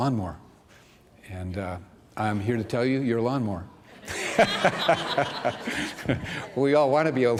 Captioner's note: laughter